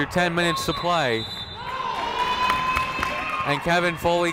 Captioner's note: whistle blows